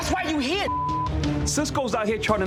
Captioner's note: beep